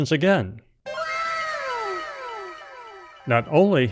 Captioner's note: anime "wow!" sound effect